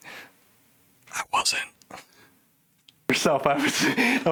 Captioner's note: whispers